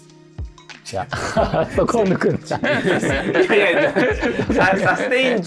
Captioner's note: laughing